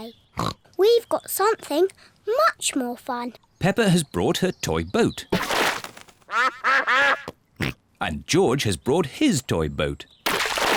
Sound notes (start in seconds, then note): 0.3 snorts; 6.1 snorts; 6.2 ducks quack